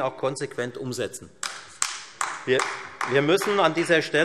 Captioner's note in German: Beifall Freie Demokraten und AfD